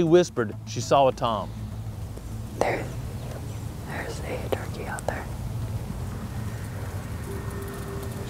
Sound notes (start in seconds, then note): 1.5 whispering; 3.7 whispering